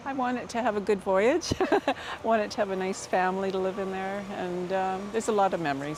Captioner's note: laughter